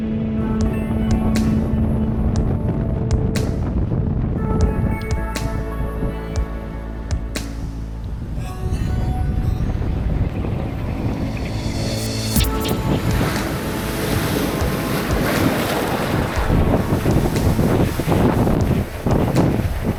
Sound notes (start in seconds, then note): 2.0 wind blowing; 12.5 ocean waves crashing on rocks